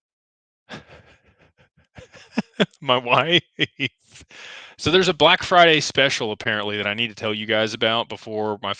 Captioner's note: laughter